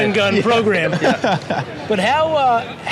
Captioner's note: laughs